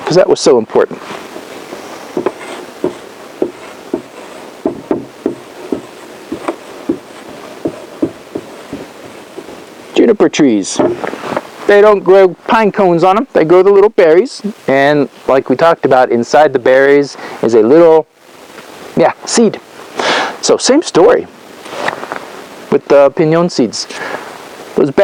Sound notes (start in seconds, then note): 2.4 tapping